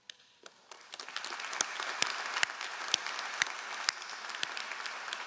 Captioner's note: all applauding